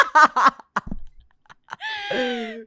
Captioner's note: laughs; laughs